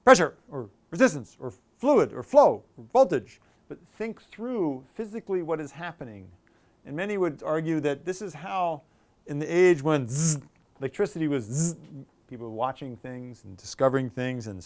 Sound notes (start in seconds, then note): 10.0 buzzing sound